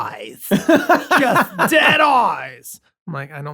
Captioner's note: laughter